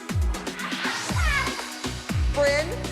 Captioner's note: excited scream